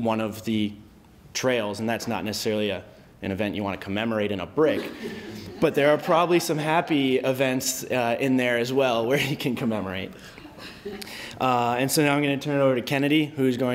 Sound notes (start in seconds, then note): 4.7 laughter; 10.2 laughs; 10.3 laughter